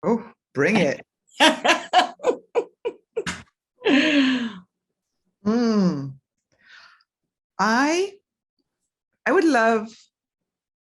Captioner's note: laughs